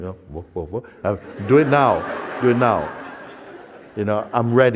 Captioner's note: Lachen